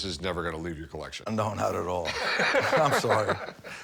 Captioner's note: laughs